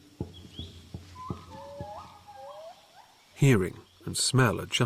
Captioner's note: squealing